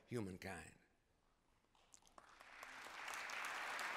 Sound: applause

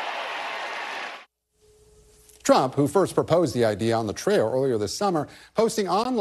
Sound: cheering and applause

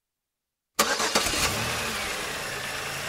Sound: Pontiac turns over

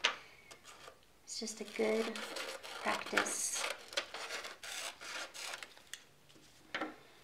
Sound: scissors snipping

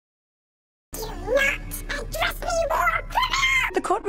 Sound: voice higher than a dying whale

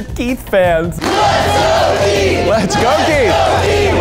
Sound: crowd

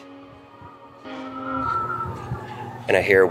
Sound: wind whistling

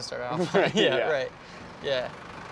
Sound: chuckles

